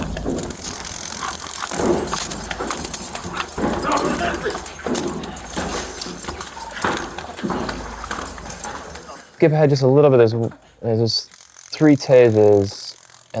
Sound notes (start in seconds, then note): 1.6 scuffle